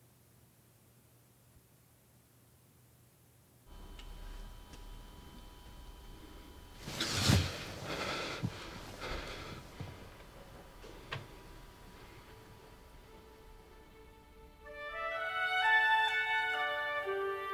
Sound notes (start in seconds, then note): 7.1 Tommy panting; 7.5 Tommy gasping; 13.2 cheerful music